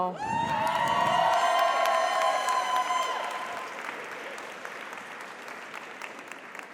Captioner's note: audience cheers; audience applauds